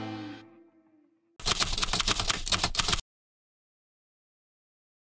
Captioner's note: typewriter clicking